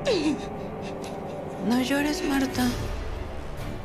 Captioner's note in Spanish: Sollozos